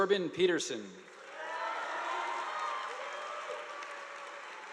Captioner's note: audience applauding